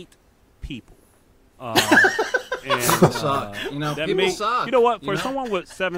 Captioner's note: laughter